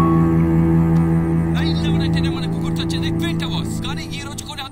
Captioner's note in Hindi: रेडियो बज रहा है